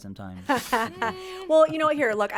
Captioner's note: laughs